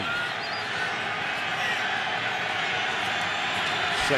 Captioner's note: crowd cheering